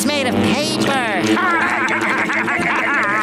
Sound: laughing

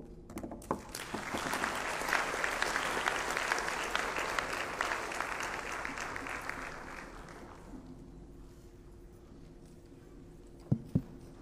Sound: applause

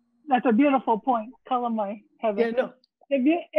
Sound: speaks in foreign language

